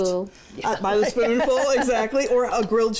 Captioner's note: laughs